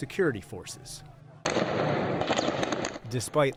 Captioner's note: gunshots